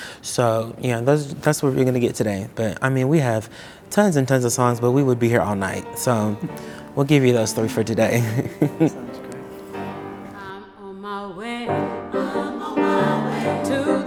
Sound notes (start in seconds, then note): 7.4 chuckles